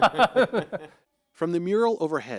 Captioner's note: laughter